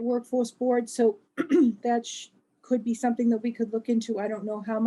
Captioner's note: cough